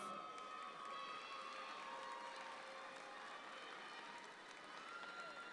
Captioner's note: audience applauds